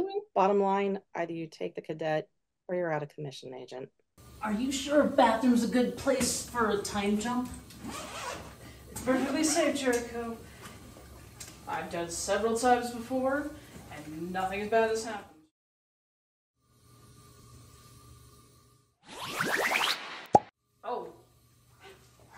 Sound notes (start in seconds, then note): 7.7 zipper slides; 19.1 zapping; 19.3 pop